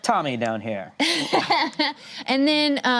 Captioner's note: laughs